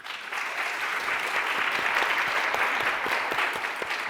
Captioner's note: applauding